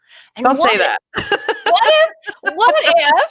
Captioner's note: laughing